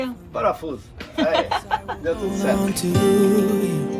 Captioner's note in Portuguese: risadas